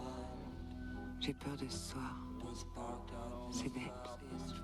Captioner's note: speaking french